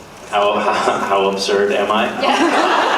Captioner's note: laughing; laughs